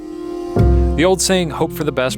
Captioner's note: voiceover